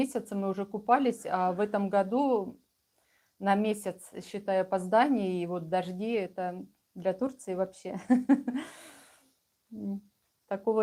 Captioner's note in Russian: смех